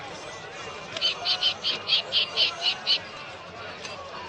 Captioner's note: bird shrieking